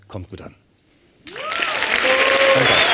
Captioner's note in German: Applaus